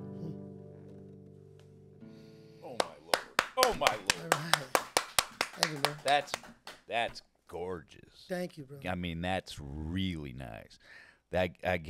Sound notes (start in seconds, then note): 2.8 clapping